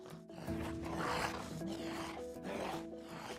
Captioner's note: zombie growling